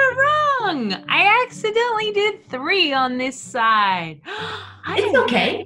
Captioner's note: gasps